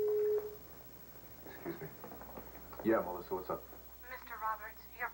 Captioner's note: intercom beeps